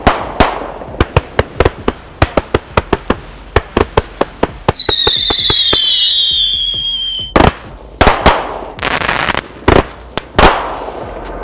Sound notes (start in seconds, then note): 4.6 fireworks whistling and popping